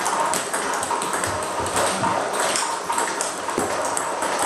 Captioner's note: ball ping pong hitting continues